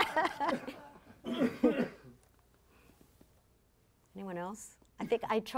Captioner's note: laughing; coughing